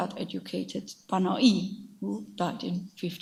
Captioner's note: speaks in a foreign language